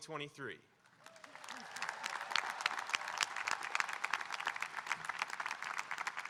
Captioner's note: audience applauding and cheering